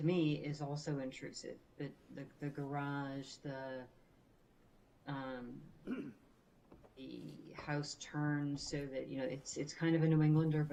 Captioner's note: clears throat